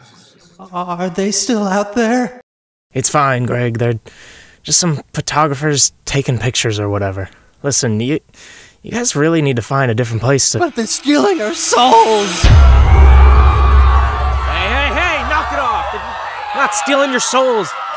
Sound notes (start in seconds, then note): 12.4 screaming